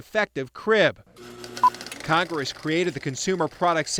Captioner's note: film reel spinning